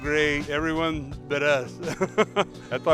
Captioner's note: laughing